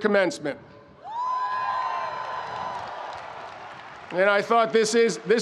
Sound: audience cheering

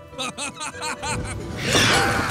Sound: laughing

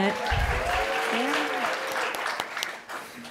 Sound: cheering and applause

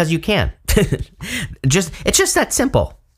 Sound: chuckling

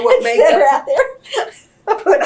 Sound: laughter; laughs

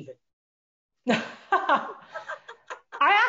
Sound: laughing

